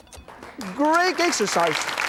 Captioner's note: clapping